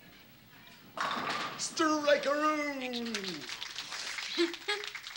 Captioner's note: pins knocking